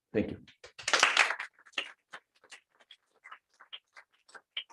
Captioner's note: applause